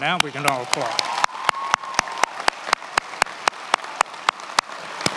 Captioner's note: attendees applauding